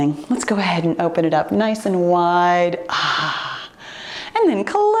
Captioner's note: sigh